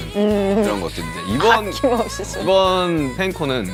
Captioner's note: haha